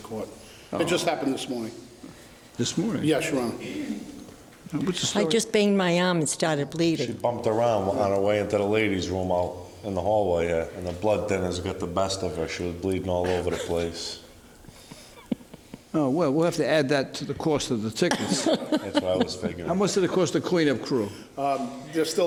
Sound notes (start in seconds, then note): 14.6 laughs; 18.1 laughs